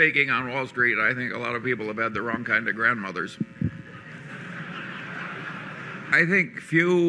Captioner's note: laughter and applause